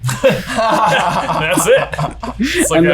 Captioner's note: laugh